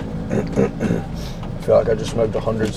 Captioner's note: clears throat